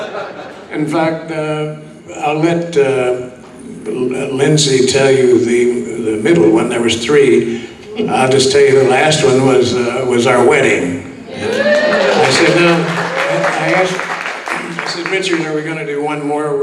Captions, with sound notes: In fact, I'll let Lindsay tell you the middle one. There was three. I'll just tell you the last one was our wedding. (audience whoops) I said, "Richard, are we gonna do one more